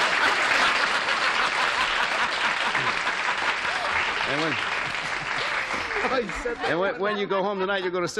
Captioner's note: laughter; applause